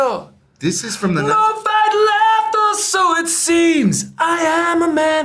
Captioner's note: screaming